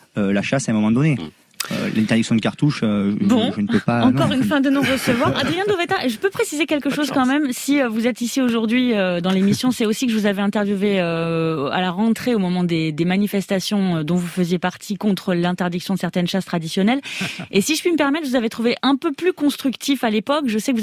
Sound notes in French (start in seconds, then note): 3.7 Voix journaliste